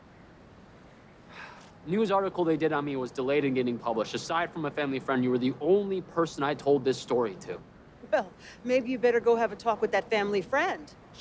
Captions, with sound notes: - (sighs) The news article they did on me was delayed in getting published. Aside from a family friend, you were the only person I told this story to. - Well, maybe you better go have a talk with that family friend.